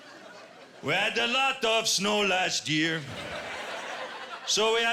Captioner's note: laughter; quebecois accent